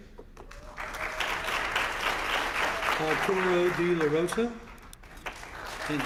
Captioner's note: applause